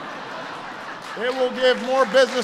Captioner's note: laughter and applause